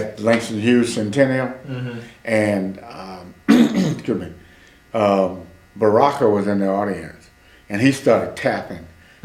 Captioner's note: clears his throat